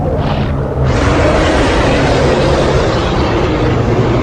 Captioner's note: bear growling